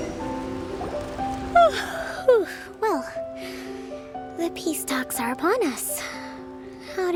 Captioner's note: yawn